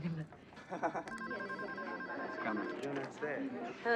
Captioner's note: phone rings